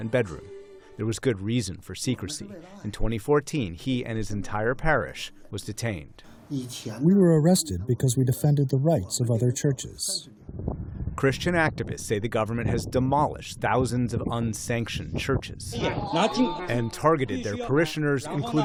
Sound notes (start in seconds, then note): 7.5 through translator